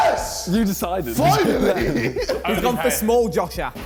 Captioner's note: laughs